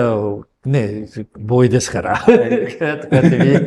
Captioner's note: laughs